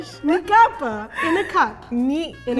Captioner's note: speaking in Japanese